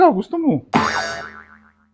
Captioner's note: boing!